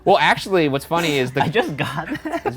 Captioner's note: laughing